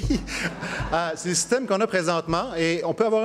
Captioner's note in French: rires